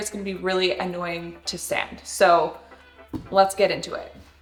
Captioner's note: none